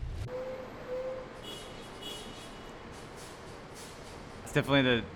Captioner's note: car horn honking